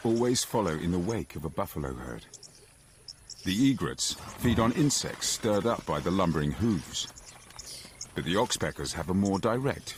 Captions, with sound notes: but the oxpeckers have a more direct feeding strategy. (wildebeest grunts) (birds chirping)